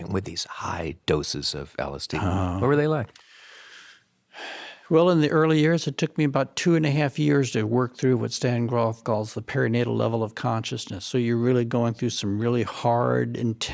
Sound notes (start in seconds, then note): 3.2 inhales loudly; 3.9 exhales loudly